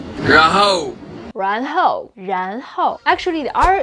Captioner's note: speaking in Mandarin